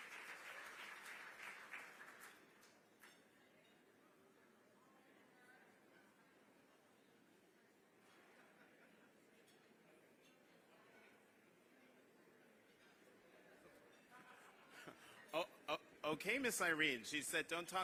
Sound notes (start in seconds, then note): 1.2 laughter; 3.1 applause